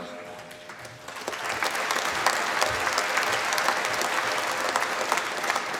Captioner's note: applause